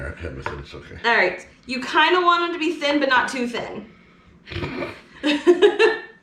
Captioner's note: chuckling